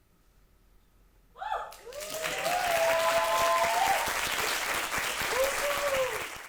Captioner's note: audience applauds and cheers